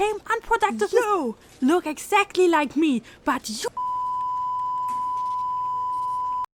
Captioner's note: peep